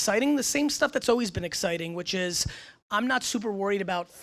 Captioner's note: none